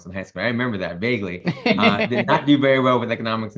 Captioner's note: laughs